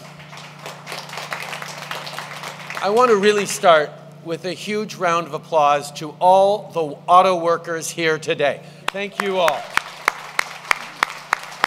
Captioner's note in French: Applaudissements; Applaudissements